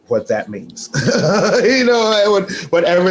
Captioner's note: laughs